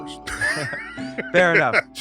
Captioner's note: laughs